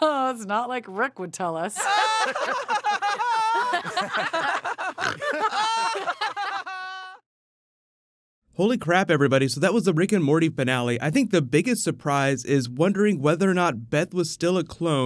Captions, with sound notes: Not like Rick would tell us *all laughs i think snorts* Holy crap everybody so that was a Rick and Morty finale I think the biggest surprise is wondering whether or not Beth was still a clone